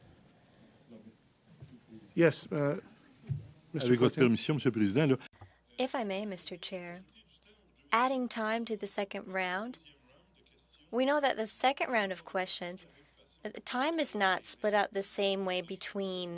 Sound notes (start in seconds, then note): 7.9 speaking French